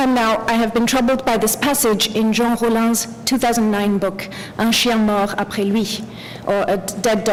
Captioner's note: french